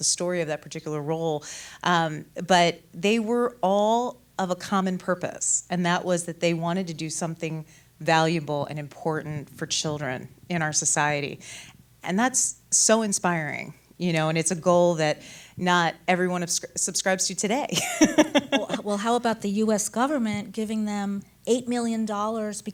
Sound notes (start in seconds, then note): 17.7 laughs